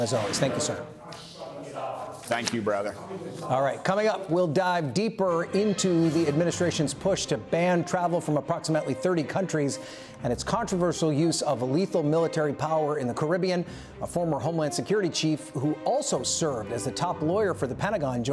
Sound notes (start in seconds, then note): none